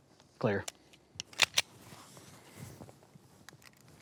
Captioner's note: gun clicks